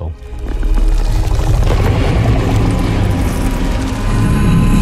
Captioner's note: eerie roaring sound